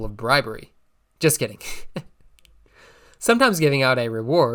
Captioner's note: chuckling